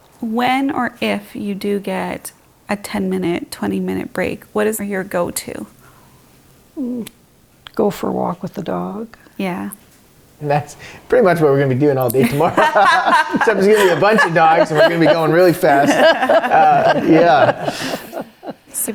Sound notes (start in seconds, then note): 12.9 all laughing; 16.1 continued laughing